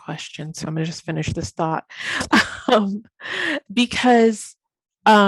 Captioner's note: chuckles